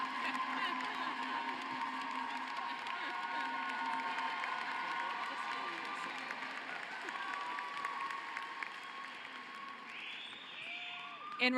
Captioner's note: cheering and applause